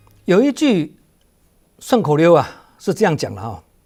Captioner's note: in Mandarin